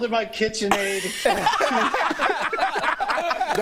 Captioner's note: laughter